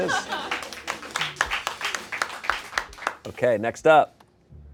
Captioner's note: crew applauds